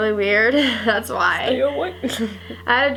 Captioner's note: laughs